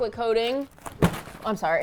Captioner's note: box falls